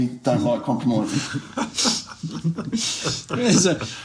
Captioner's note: laughs